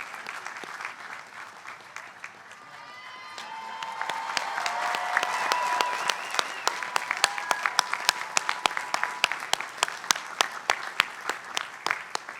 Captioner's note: applause